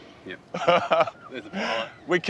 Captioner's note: chuckles